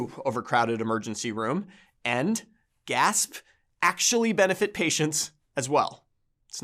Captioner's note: gasp